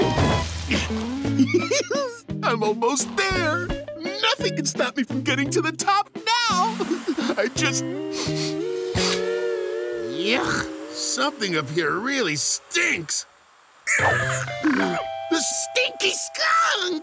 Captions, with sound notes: [giggling] I'm almost there. Nothing can stop me from getting to the top, now! I just-- [sniffing] Yuck! Something up here really stinks. [squeaking] The stinky skunk!